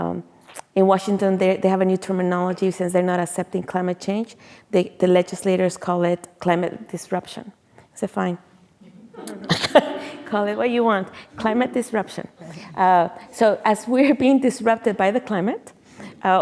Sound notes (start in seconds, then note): 9.2 audience laughing